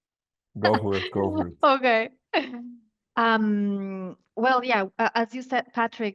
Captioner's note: laughs